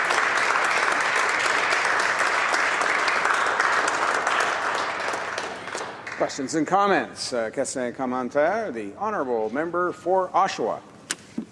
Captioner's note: some applause